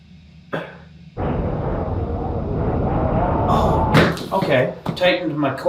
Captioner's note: wind howling